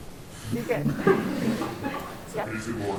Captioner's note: laughter